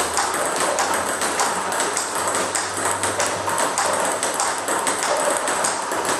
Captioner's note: ball ping pong hitting continues